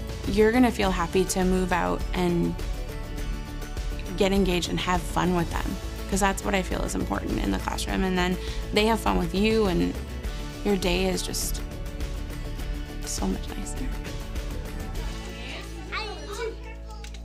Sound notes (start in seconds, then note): 14.2 upbeat music; 15.2 children chattering